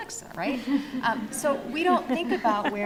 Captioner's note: audience laughs